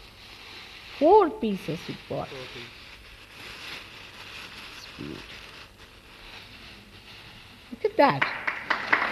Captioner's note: applause